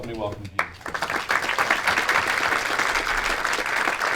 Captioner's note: applause